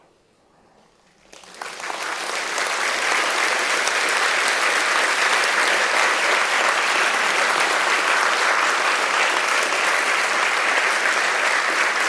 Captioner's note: audience clapping